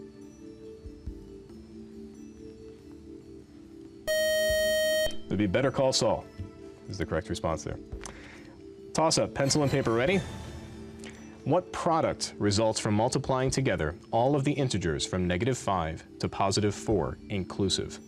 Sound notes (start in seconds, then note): 4.0 time-out buzzer